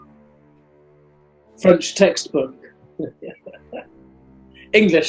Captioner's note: chuckling